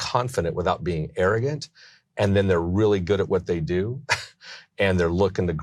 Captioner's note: laughs